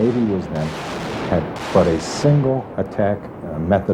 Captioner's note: gun fire exploding